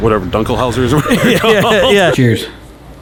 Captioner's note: laughing